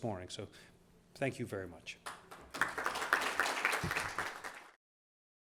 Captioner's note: applause